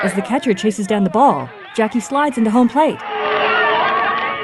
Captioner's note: crowd cheering; humming in harmony